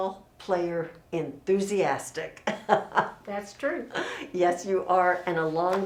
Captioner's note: laughs